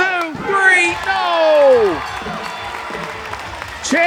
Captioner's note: ringing